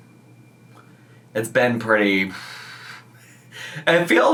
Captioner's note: exhales